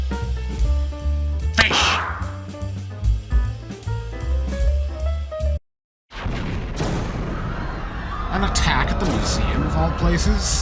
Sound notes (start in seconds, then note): 6.1 explosion; 7.6 screaming civilians